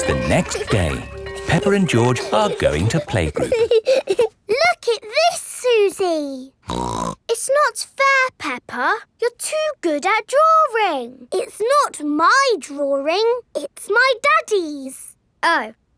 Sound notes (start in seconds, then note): 6.6 snorts